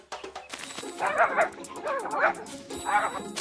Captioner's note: barking viciously